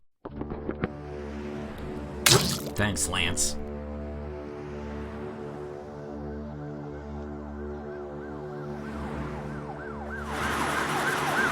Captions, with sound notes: Thanks, Lance. (sirens blaring)